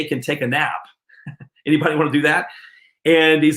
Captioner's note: chuckles